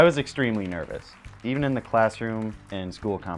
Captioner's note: applause